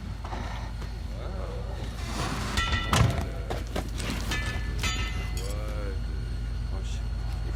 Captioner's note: metal clanging